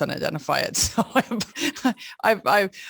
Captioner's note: laughs